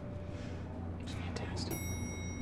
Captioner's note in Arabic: بهدوء